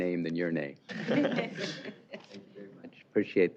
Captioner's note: laughter